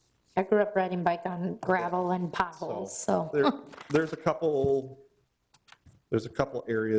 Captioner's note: laughs